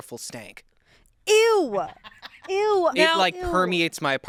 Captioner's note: crew laughs